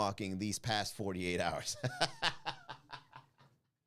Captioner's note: laugh